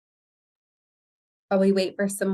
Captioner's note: silence